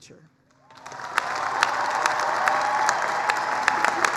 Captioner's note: applause, cheering